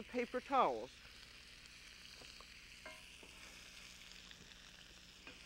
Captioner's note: pan sizzling